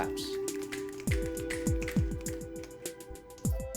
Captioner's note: snapping